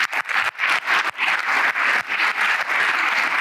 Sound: applause

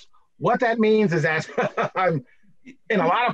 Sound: laughs

